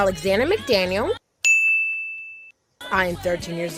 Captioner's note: sharp clinging